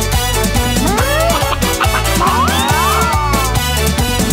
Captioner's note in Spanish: Música alegre; Sonido de cacareos; Música alegre